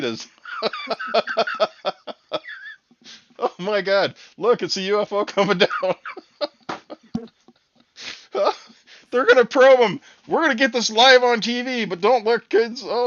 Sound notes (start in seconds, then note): 0.3 laughing